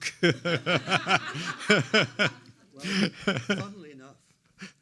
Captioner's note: laughs; everyone laughs